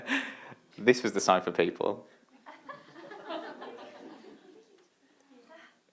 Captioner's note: laughter; laughter